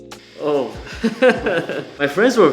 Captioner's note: lo-fi music; laughs